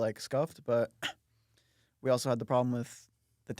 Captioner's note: coughs